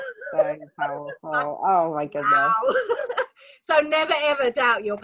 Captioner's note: laughs